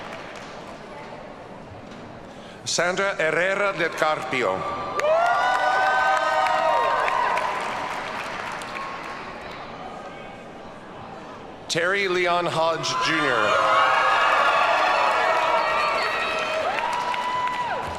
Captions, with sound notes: Sandra Herrera Del Carpio. (audience cheers and applauds) Terry Leon Hodge, Jr. (audience cheers and applauds)